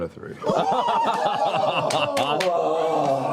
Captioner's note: cheering